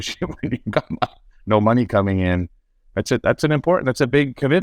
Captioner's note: laughs